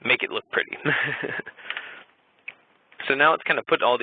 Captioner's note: chuckling